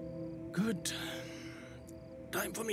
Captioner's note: Exhales